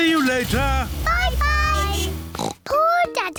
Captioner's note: horn beeps; oinks